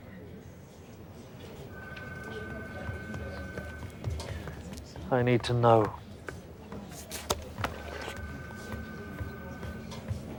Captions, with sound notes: (phone rings) I need to know. (phone rings)